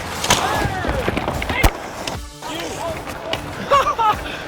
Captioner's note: sticks clacking